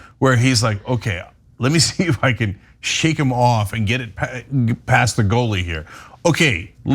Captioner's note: laugh